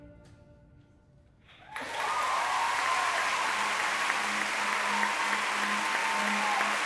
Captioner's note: audience applauding and whooping